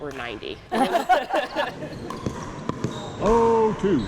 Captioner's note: both laugh